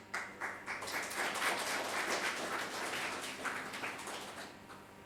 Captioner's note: audience applauding